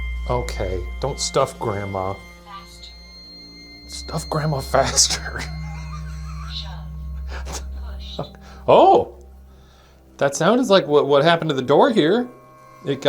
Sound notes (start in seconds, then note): 4.8 laughs